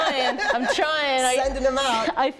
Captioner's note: laughter